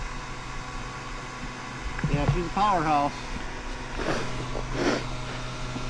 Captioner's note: engine revving